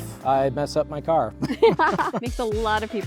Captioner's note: laughter